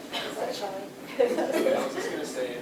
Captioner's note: laughter